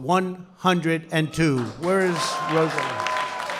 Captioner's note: applause